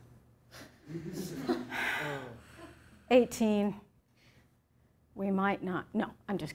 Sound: laughter

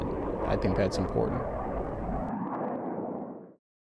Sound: sound of jet engine

